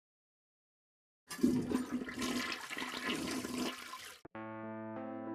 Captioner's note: flushing sound